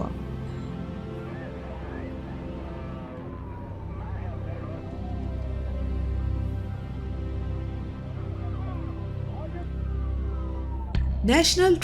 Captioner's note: ambulance Siren